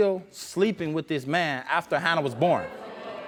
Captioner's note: audience murmurs disapproval